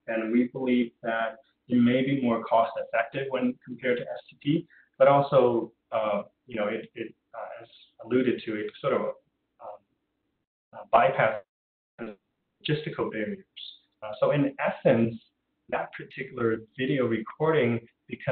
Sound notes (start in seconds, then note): 10.8 audio drop